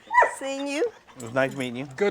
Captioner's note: barking